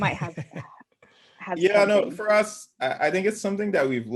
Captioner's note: laugh